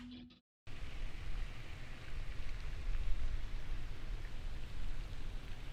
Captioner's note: water splashing distantly